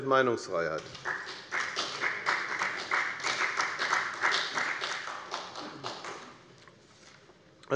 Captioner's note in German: Beifall bei der FDP und bei Abgeordneten der SPD